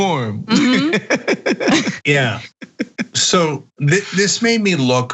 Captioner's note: laugh